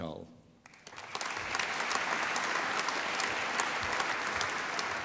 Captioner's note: applause